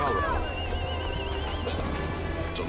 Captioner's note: crowd cheering